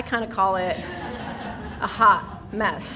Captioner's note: people laughing